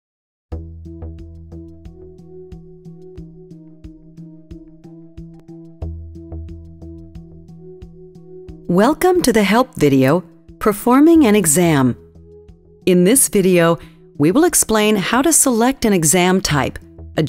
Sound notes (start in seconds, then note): 1.8 light guitar music; 8.9 voiceover